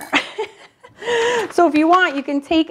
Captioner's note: laughing